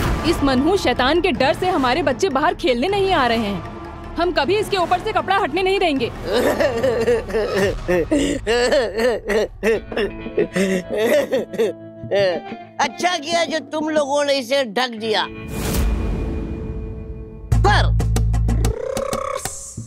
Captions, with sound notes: Our children are not coming out to play for fear of this wretched devil. We'll never let it off. [laughing] It's good that you covered this devil. But